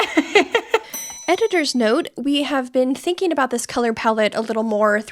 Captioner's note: bell ringing